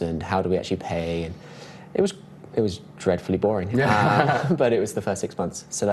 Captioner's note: laughs